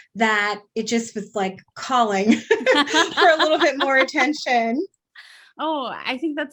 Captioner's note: laugh